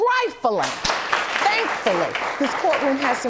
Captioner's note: audience applauding